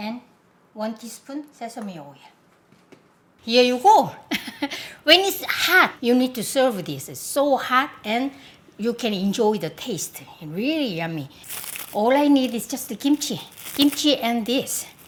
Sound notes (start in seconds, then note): 4.3 laughs